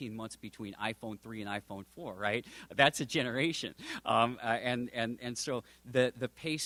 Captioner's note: chuckles